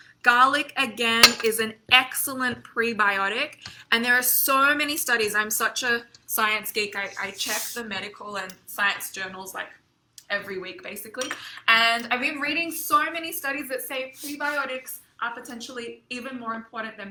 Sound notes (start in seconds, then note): none